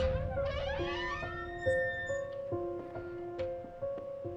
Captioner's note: door creaks